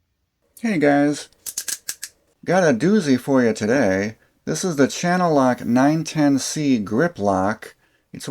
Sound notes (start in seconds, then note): 1.3 malt liquor opening sound